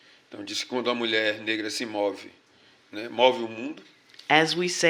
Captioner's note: speaking portuguese